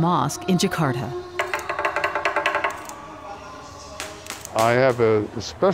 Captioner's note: stick tapping